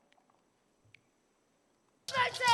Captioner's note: crowd chanting